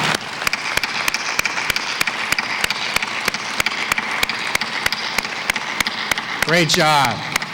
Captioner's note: applause